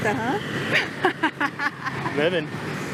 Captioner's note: laughs